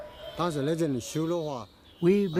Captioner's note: speaking in foreign language